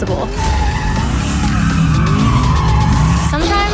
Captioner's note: tires screech